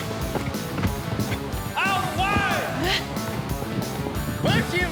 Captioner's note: fast hoof beats